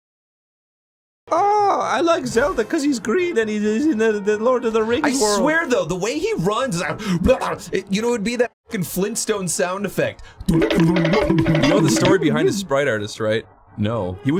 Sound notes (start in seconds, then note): 10.5 imitates sound